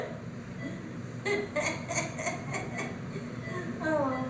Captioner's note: laughs